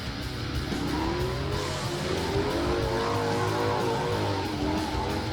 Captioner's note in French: crissement des pneus de moto; la musique rock intense continue